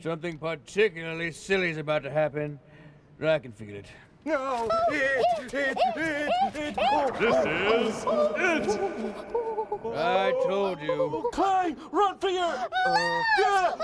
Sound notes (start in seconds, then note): 4.2 shouting frantically